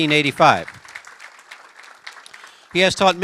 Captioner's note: applause